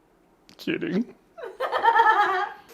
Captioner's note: laughs